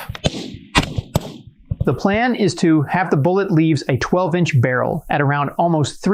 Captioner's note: gunshots